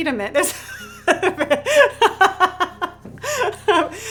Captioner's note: laughs